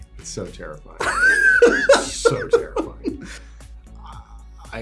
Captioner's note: laughs